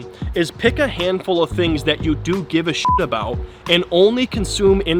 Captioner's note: beep